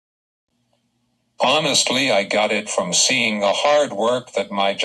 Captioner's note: voiceover